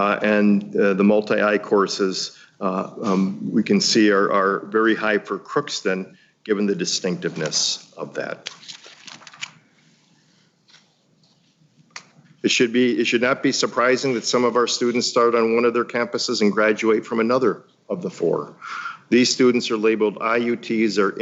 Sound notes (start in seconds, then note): 8.3 paper shuffling